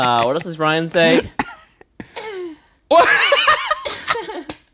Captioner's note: laughing; laughing